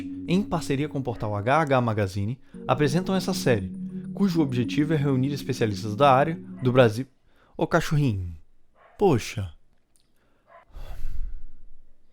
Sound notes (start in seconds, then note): 8.8 dog barking outside